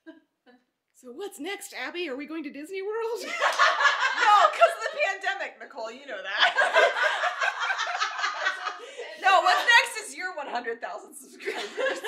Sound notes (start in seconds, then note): 3.2 laughing; 6.5 laughing out loud; 11.9 laughing